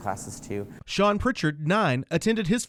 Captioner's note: voiceover